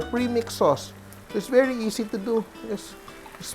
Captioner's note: sizzle